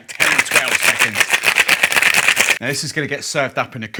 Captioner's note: cocktail shaker rattling